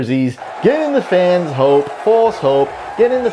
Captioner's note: fans cheering